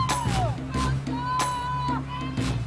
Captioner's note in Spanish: Gritos y exclamaciones